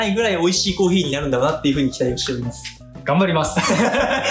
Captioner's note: laughs